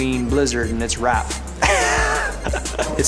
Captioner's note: laughing